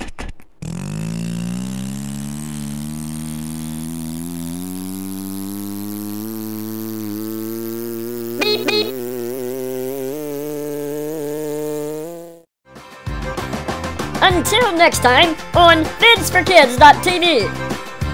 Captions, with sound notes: [beep beep] Until next time on Vids4Kids.tv.